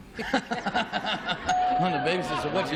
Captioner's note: laughter